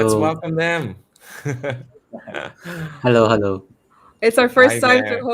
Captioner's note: laughter